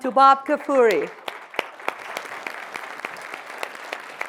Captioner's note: audience clapping